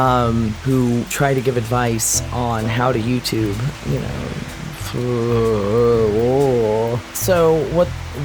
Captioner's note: overwhelmed & disgusted sounds; sarcastically